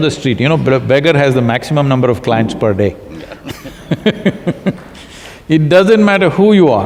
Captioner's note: both laugh